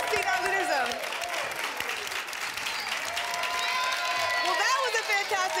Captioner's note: applause and cheering